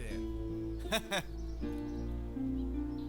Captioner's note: chuckling